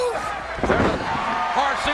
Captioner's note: body thuds